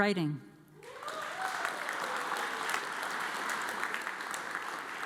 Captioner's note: audience applauds